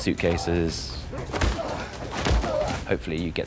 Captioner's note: groans